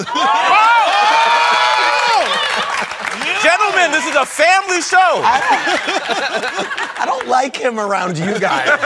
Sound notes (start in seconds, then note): 0.0 laughter; 2.5 laughing; 5.2 laughter